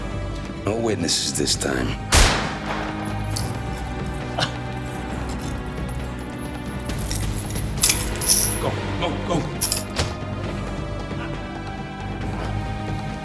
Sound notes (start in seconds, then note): 2.1 gunshot; 6.9 chains clank on floor